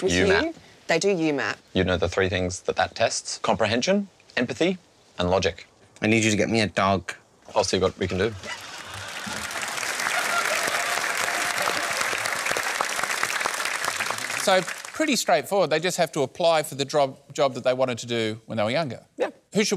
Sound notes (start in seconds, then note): 8.4 applause